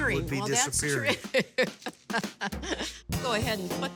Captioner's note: chuckling